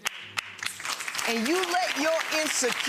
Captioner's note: audience clapping